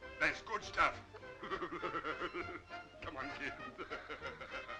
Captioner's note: laughing